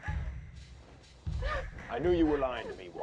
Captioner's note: crying